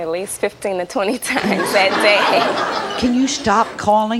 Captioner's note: audience laughs